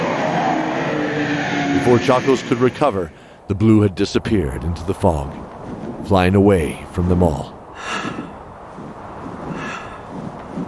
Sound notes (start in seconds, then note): 7.3 panting then softly whispered; 8.1 silent wings flapping in the wind